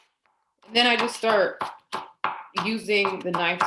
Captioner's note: knife chopping